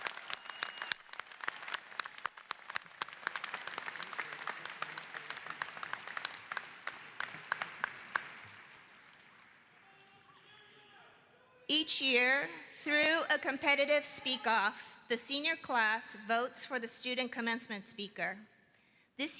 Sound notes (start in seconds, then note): 3.6 applause